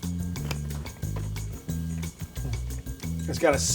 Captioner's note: carrot stick crunches